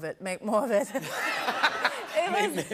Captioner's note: laughter